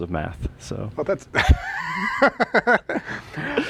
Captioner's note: laughter